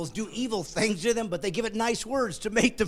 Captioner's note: laughing